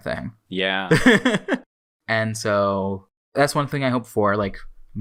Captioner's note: laughs